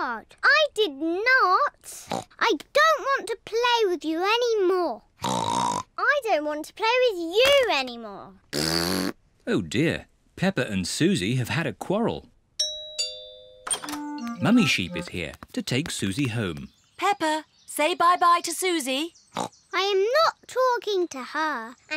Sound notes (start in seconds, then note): 5.2 snorts; 8.5 blows raspberry; 12.6 doorbell rings; 19.3 snorts